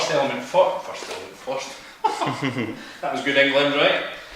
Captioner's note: chuckle